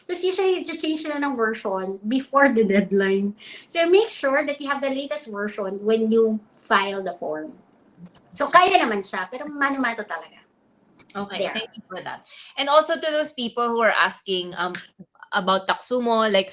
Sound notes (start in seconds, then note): 8.3 speaks in Filipino